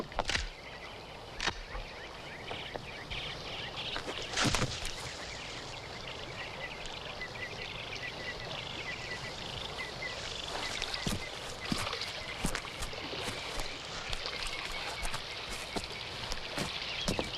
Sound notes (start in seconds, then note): 0.3 gun clacks; 3.5 leaves rustle; 4.0 foot thumps